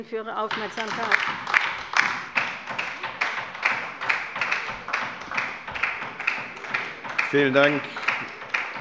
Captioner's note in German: Beifall bei der LINKEN